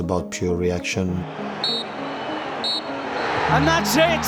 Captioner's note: referee blows whistle